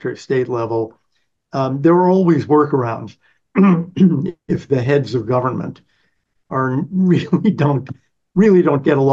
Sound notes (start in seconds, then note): 6.8 laughs